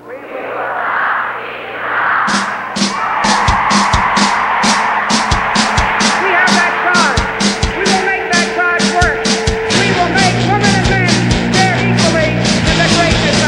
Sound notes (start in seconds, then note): 0.2 crowd repeats; 2.6 cheering